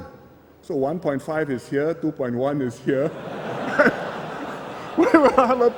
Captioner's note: laughter